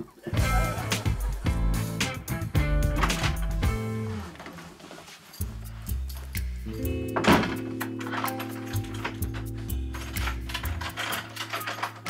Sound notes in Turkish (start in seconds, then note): 7.1 Kapı kapanma sesi